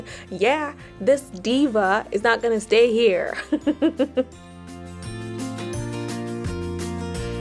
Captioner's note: giggles